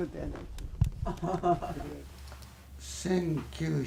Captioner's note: laughter